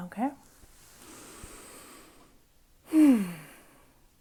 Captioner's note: deep inhale and exhale